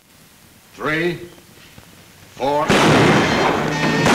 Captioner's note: gun bangs; guns bang